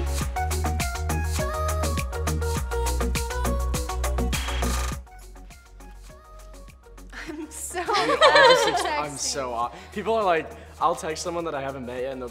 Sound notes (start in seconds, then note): 0.1 upbeat music; 7.1 laughing